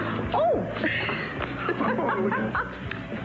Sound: Gabrielle laughs

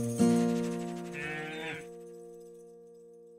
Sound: cow moos

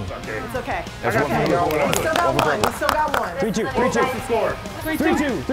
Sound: applause

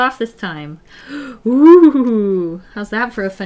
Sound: gasps

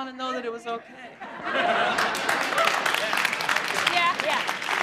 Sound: applauding

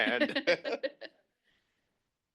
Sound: laughter

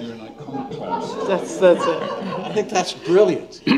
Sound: laughter

